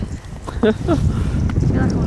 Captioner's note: laughing